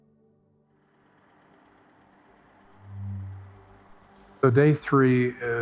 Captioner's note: wind